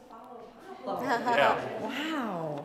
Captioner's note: laughter